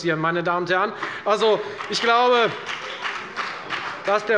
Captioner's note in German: Beifall bei der FDP